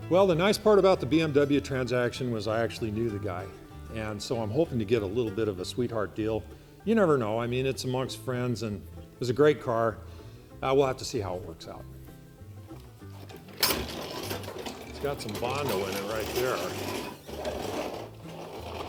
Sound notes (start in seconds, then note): 12.8 opening garage door